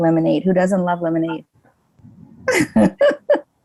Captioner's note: laughs